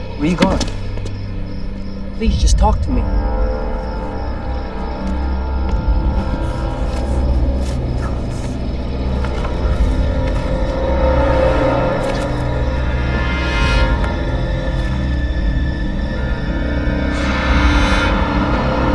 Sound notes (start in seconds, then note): 6.0 groaning